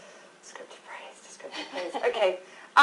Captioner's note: whispering